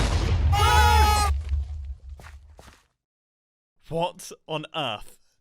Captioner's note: horrified shouts